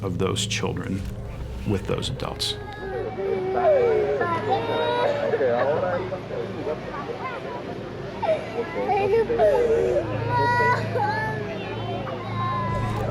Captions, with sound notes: of those children with those adults. (child crying)